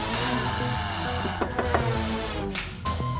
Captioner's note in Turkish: Kapı vuruluyor